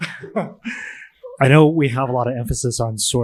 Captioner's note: chuckles